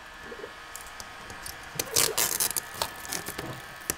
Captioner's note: blow-dryer noises, tearing noises